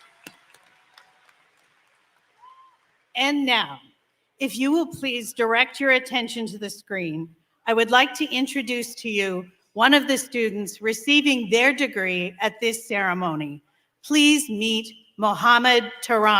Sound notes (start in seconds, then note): 1.6 applause